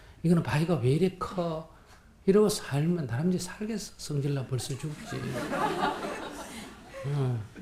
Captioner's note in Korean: 청중 웃음